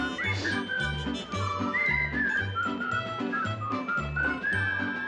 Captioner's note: whistling melodically; sniffs